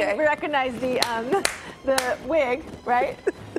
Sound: laughter

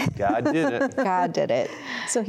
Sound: giggling

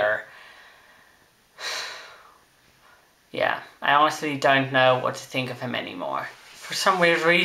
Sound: sigh

